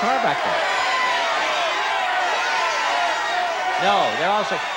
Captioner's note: audience shouting